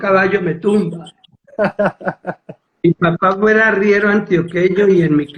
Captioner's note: laughs